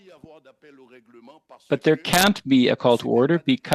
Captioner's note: speaking French